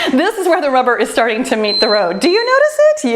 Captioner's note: timer beeps